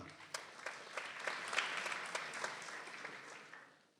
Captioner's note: people applauding